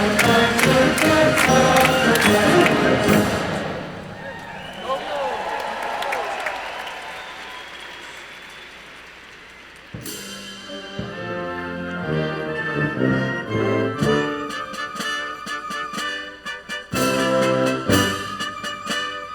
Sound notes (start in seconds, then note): 4.4 audience applauding; 4.4 audience cheering; 10.4 band playing